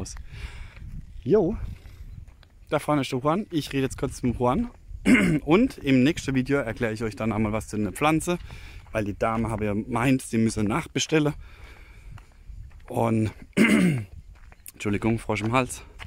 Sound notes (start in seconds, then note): 13.3 frog in the throat